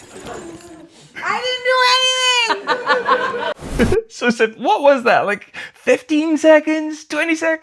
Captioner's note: laughter